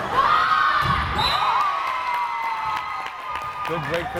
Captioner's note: crowd cheering